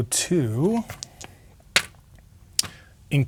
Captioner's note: dice rolling